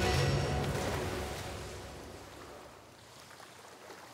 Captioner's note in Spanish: sonido del agua